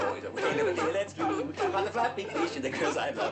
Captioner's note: seal barking